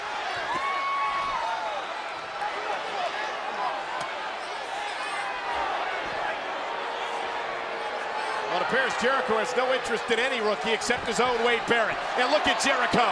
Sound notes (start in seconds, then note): 0.1 crowd cheering; 2.1 crowd chatter